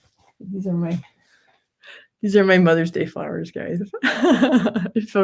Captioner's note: laughs